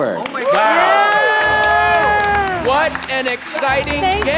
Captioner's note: team shouting and clapping